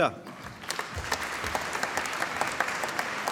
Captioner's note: applause